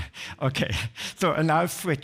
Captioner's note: chuckles